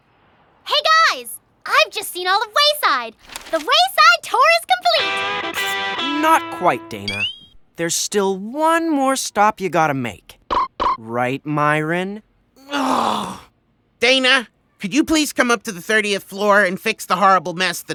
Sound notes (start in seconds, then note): 12.6 groans